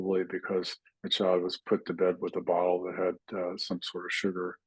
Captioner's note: clears throat